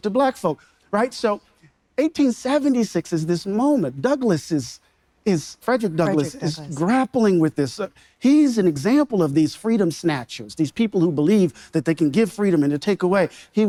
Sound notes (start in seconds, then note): none